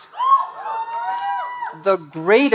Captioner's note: audience cheering